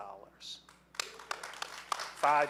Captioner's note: audience applauding